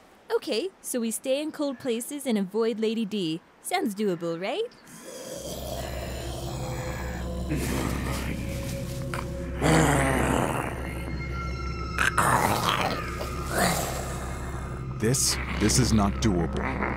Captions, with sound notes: - Okay, so we stay in cold places and avoid Lady D. Sounds doable, right? (crow cawing) (moroaica growling) - This, this is not doable.